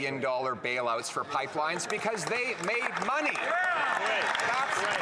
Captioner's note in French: voix de l'interprète